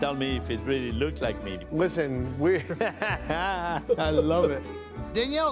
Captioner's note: laughs